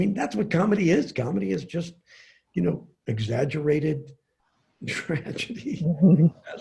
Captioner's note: chuckles